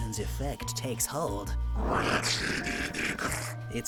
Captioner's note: Regiasma’s cry